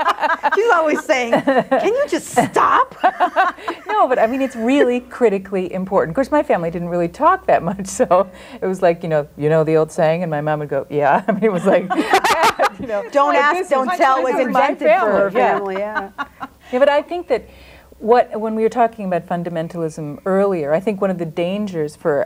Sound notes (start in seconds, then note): 0.0 group laughs; 11.4 group laughs; 15.4 overlapping chattering